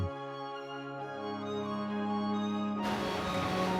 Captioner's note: bright, uplifting string music plays; waves lapping